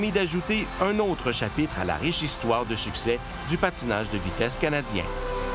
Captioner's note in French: cris et applaudissements